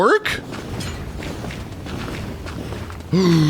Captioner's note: crashing